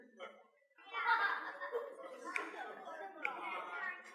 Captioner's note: laughter